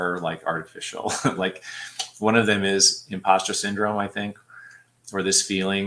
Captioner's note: laughter